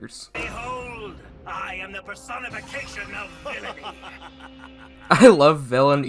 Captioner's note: muh ha ha ha ha ha